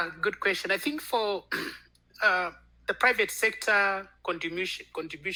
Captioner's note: clears throat